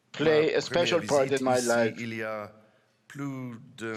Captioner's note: speaking French